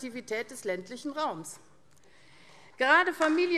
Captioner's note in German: Beifall AfD